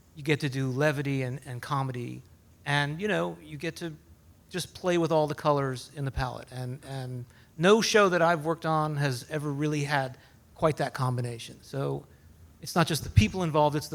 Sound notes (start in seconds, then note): none